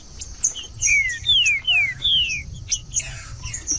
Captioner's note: trinca ferro cantando